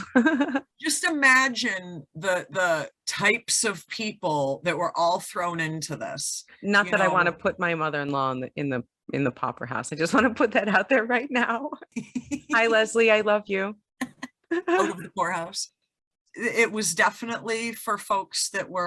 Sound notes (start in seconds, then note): 0.0 laugh; 11.8 laughs